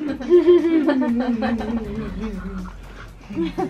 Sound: laughing

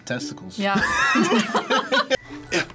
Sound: group laughs

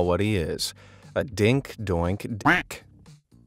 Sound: quack

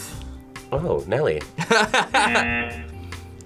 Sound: laughs; buzzer

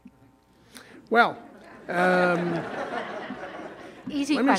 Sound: audience laughing

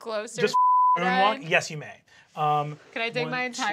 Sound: beep

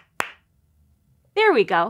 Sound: claps three time

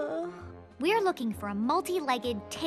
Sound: yawning

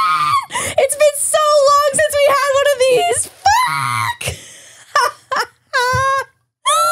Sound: laughs

